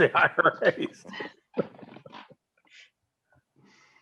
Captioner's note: laughs